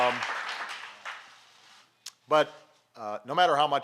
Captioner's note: applause